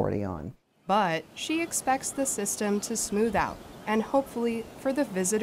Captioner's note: voice-over